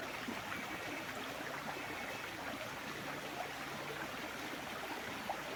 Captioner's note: sound of water